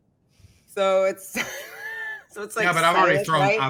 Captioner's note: chuckles